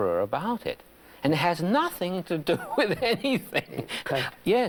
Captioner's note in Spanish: Risas